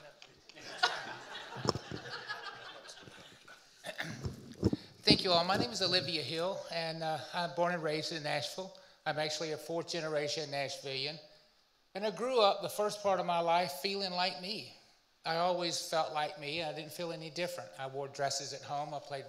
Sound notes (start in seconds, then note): 0.6 audience and panelists laughing; 3.8 clears throat